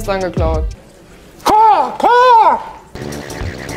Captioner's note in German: Vogelrufe